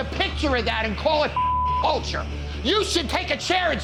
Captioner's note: beep